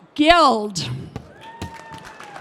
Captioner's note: cheering